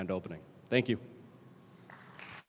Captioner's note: crowd applauds